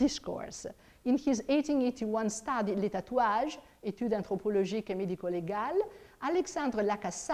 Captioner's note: speaks in foreign language